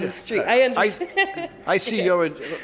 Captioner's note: woman laughs